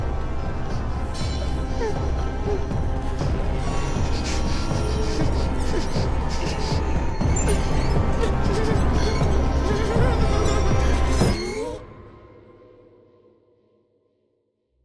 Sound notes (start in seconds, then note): 0.1 tense music continues; 4.5 Claire whimpering; 8.5 tense music continues